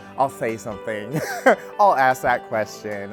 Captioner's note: speaker laughs